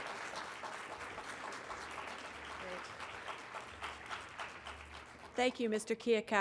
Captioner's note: applause